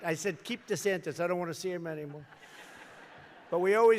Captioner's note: laughter